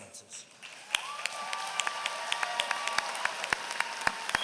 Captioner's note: applause